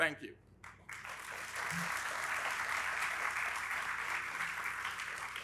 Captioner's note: audience applauding